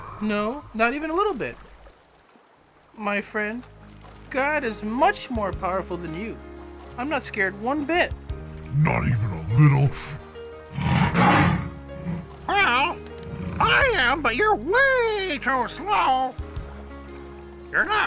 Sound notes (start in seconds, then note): 10.7 lion roaring